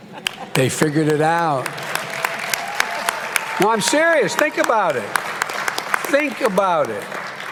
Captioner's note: applause